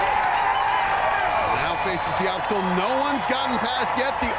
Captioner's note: cheers and applause